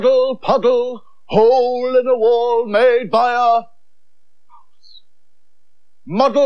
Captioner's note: whispers